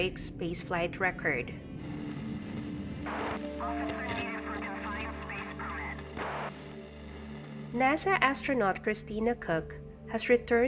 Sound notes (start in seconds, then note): 3.0 static radio voice